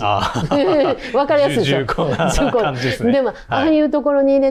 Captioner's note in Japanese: 笑い